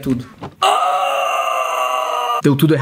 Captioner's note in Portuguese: resmunga